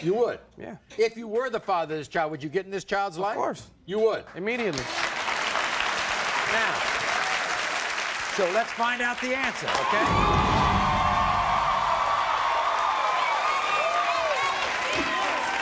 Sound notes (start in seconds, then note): 6.0 audience applauds; 9.1 audience cheers